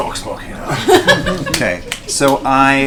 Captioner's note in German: Gelächter